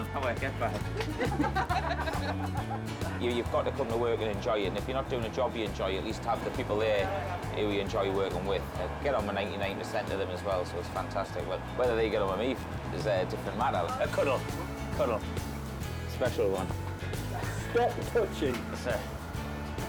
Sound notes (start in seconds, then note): 0.8 staff laughing